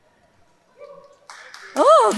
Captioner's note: audience applauding; audience cheering; laughing